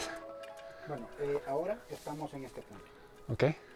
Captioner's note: Spanish